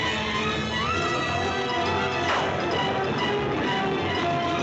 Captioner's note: thunderclap